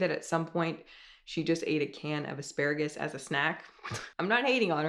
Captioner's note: chuckles